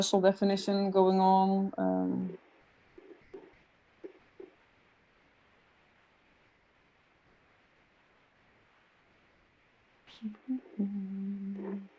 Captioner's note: hums